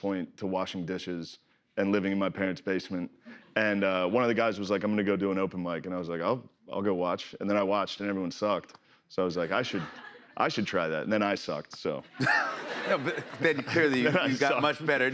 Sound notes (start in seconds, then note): 12.1 laughter